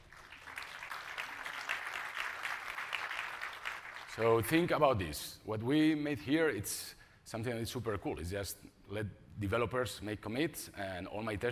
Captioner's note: applause